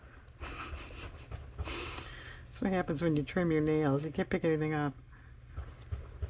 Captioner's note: laughs